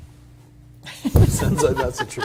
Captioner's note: laughs